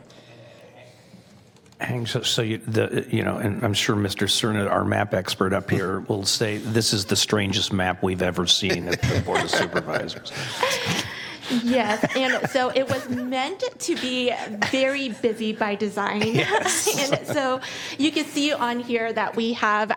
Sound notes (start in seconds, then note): 16.2 some Laughter